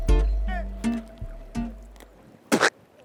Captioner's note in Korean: 씹는 소리; 구역질